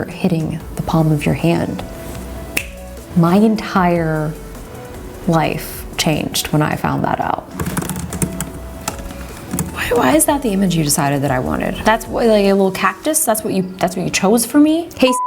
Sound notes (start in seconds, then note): 7.6 typing; 15.0 beep